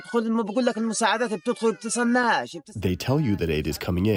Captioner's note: through translator